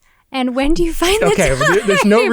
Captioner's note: laughs